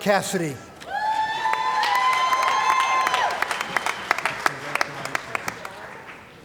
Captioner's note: cheering & Applause